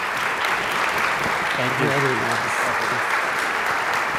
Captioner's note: audience applauds